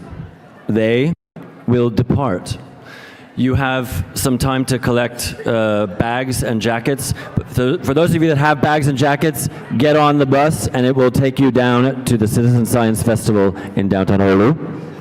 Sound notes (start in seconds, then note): none